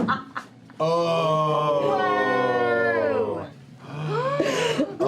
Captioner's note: laughter; oohs and ahs